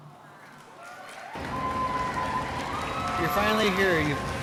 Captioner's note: audience applauding and cheering